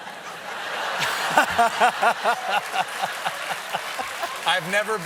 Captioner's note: laughter; applause